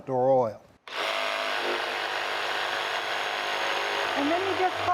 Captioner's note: machine vibrating